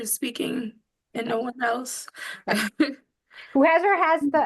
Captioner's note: laughs